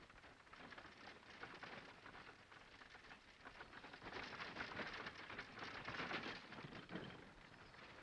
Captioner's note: wagon clatters